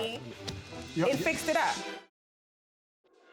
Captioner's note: stammering